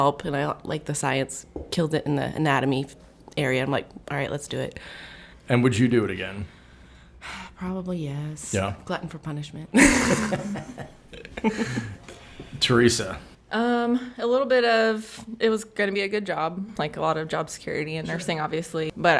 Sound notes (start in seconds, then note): 9.8 all laugh